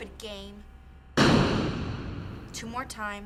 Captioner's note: loud bang